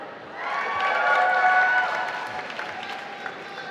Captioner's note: applause